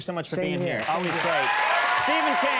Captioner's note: audience cheering